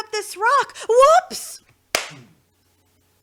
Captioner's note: smack